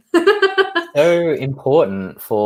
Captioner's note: laughs